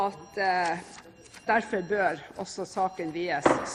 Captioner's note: Brannalarmen går